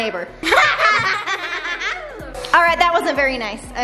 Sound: evil laugh

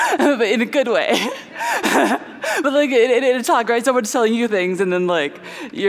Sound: laughter

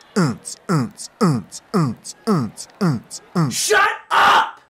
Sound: imitates techno music

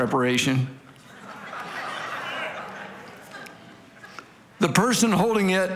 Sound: congregation laughing

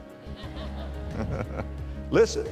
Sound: audience laughter

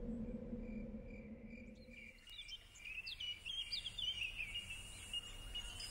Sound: cricket and birds sounds

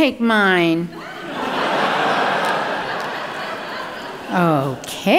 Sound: audience laughing

